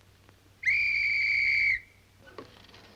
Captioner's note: whistle blows